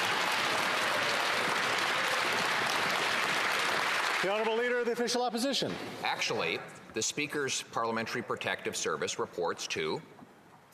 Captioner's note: some Applause